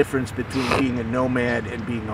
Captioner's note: sniffs